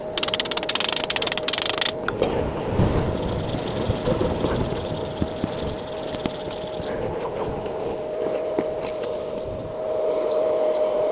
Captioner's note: wind blowing